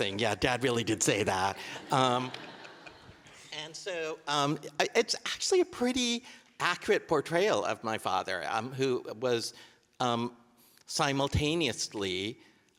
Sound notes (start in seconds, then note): 1.6 audience laughing